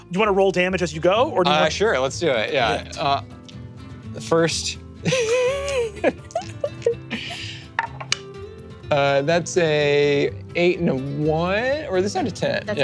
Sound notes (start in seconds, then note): 5.1 laughing